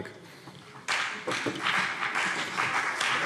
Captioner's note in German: Beifall CDU und vereinzelt BÜNDNIS 90/DIE GRÜNEN